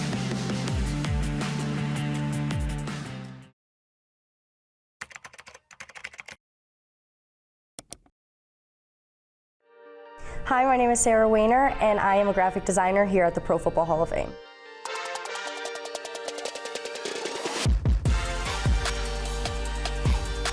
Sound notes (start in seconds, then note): 0.0 upbeat music; 5.0 keyboard clicking; 7.8 mouse clicking; 14.4 upbeat music